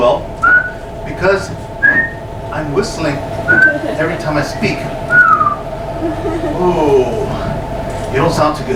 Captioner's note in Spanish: silbido; silbato; silbido